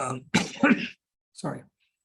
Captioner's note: coughs